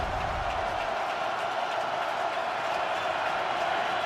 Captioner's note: crowd cheering